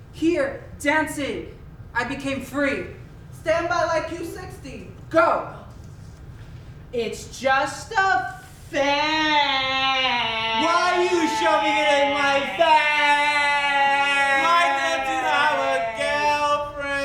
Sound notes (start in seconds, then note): none